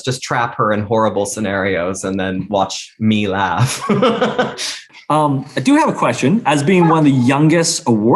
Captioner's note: laughs